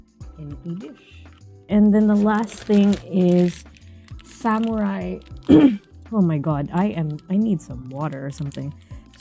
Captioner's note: cough